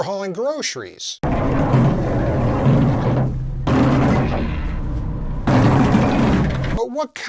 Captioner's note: sad grocery sounds